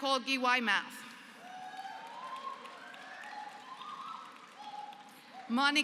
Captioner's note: applause